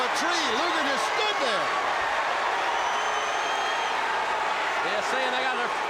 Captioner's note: crowd cheering